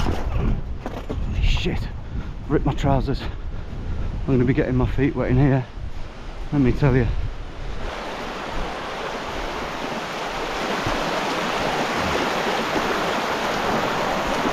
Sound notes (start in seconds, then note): 0.2 fence squeaks; 7.6 water rushing loudly